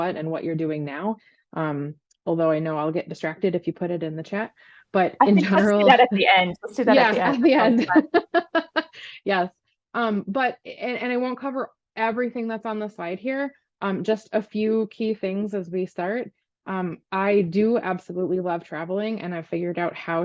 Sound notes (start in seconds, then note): 8.5 laughs